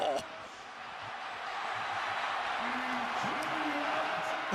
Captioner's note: cheers, applause